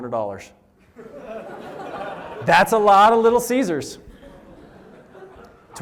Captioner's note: laughter